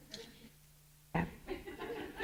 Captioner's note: laughter